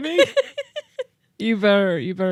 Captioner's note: chuckles; laughs